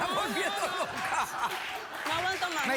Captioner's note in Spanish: risas